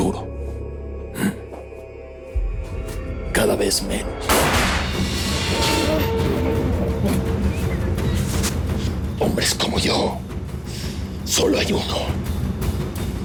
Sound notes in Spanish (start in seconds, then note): 4.2 Disparo; 5.3 Gemidos